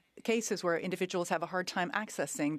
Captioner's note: speaking French